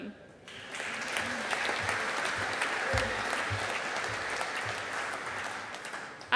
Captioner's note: audience applauding